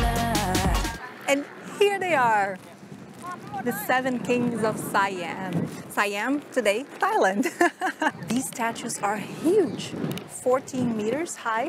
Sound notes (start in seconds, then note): 7.4 laughs